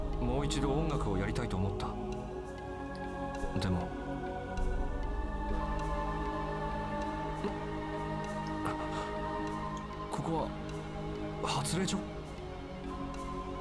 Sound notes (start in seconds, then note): 7.2 gasp